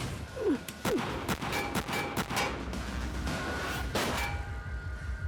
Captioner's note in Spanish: continúa la balacera